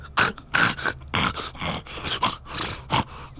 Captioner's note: snorts